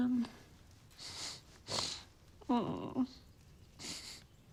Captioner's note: sniffing